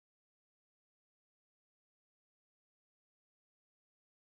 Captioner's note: none